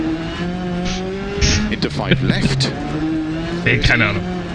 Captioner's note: laughs